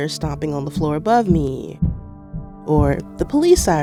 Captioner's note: soundbite of feet stomping